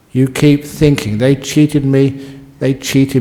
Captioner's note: none